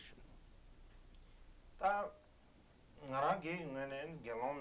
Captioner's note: non-english speech